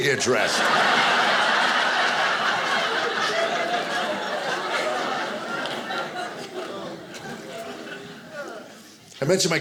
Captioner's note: audience laughing